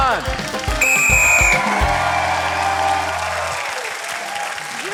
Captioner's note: cheering, applause; blows whistle